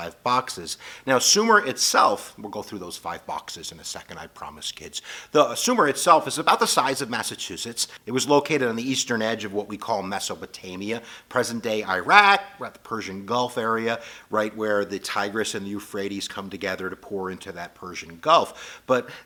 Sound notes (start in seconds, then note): 14.0 breath